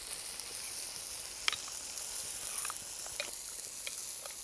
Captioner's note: pan sizzling; spoon clinking